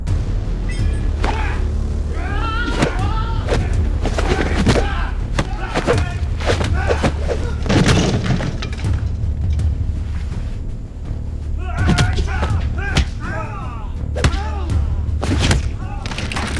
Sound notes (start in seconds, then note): 0.1 dramatic music; 1.4 Monte grunts; 3.3 thudding; 6.9 clattering; 15.1 thudding